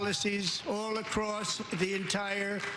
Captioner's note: applause